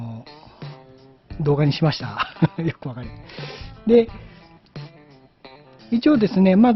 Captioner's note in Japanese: 笑い